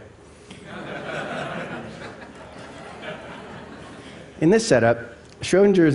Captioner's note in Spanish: Risas